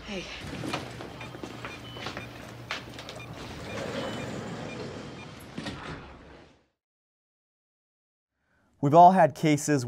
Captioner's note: beeping